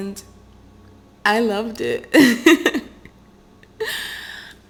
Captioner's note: laughs